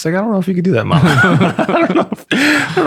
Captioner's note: laughter